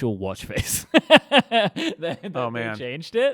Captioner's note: laughing